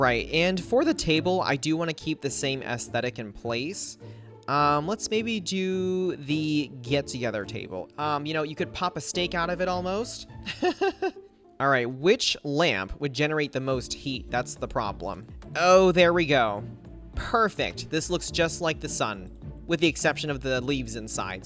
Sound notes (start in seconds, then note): 10.4 laughs